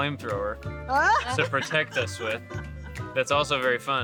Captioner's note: interviewees laughing